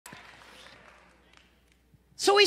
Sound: congregation clapping

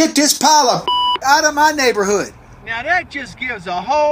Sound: beep

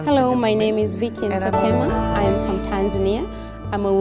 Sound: multiple women's voices

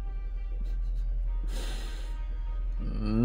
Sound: hmhmhm; breathes

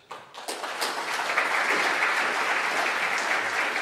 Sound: audience applause

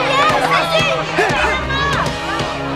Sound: people cheering

